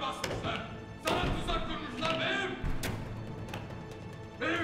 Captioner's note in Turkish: Kapı vurma sesi